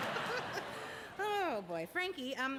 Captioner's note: laughs